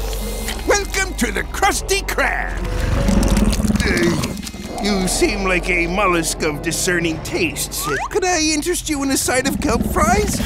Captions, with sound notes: Welcome to the Krusty Krab. [growling] Ah, you seem like a mollusk of discerning tastes. Could I interest you in a side of Kelp Fries?